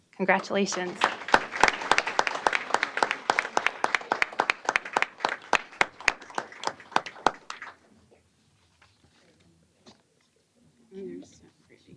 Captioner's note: applause